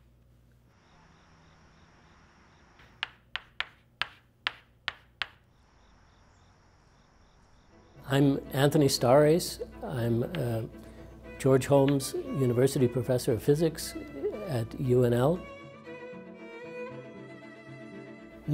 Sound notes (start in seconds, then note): 7.1 crickets chirping; 15.6 soothing music